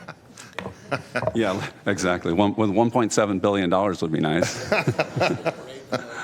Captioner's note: laughter